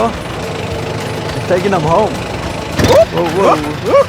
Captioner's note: engine rumbling